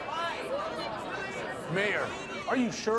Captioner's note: overlapping chatter